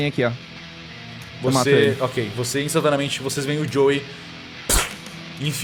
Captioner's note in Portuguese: pfsh